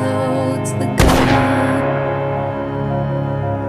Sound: gunshot rings out

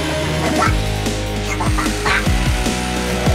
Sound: quacking continues

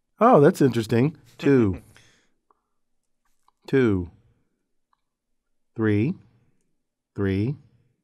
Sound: laugh

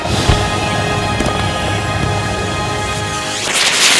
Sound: fireworks exploding

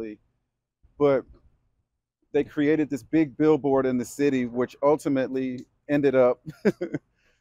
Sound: laughs

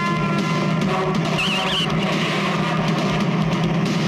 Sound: tires squealing and car rammed

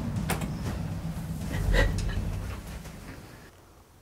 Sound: sobbing

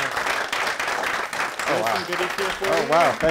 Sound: audience applauding

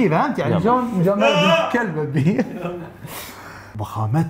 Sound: chuckles

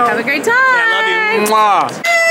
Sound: kiss noise

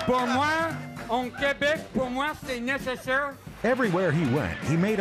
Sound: speaking french

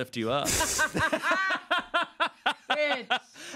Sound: everyone laughs

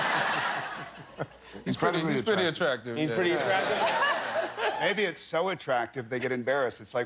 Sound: laughter

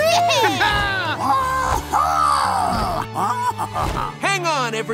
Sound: grunting

